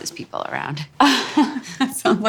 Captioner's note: laughter